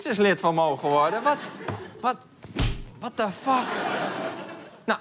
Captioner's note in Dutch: punch